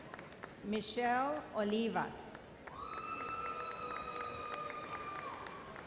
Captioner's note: audience cheers